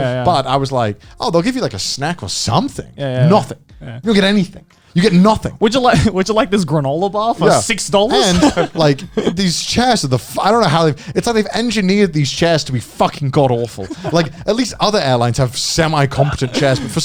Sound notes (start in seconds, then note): 8.0 chuckling